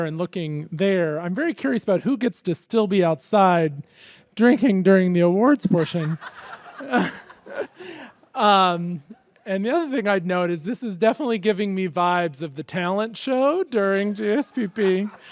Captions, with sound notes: and looking there, I'm very curious about who gets to still be outside drinking during the awards portion. (audience laughs) And the other thing I'd note is this is definitely giving me vibes of the talent show during GSPP.